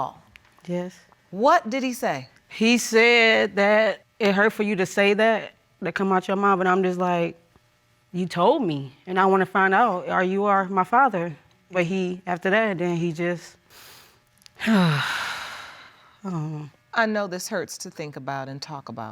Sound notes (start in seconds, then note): 14.6 sighs